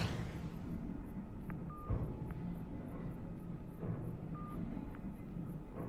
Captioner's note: phone beeping